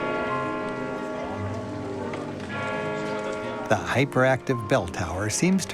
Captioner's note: bells tolling